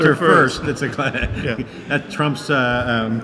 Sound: laughing

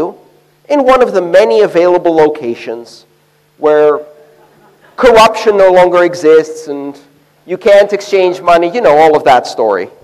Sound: laughter

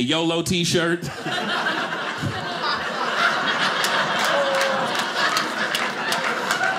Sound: audience laughing

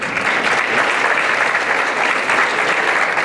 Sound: applause

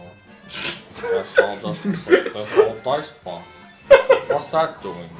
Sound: in some low voice; laughs

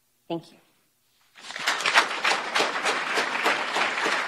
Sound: applause

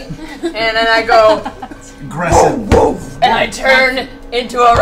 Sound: grunts

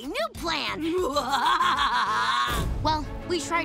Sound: laughing

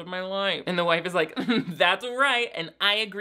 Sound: chuckles

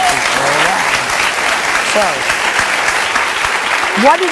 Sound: audience cheering and clapping

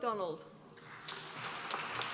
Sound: applause

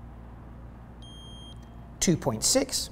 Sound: meter beeps

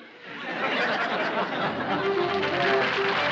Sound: laughs

